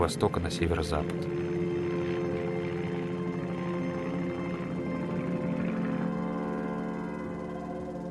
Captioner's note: airplane humming